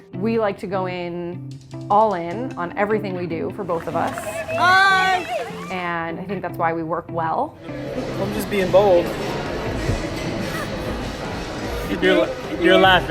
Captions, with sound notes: - We like to go in, all in, on everything we do, for both of us. (cheering) And I think that's why we work well. - Just being bold. You're laughing.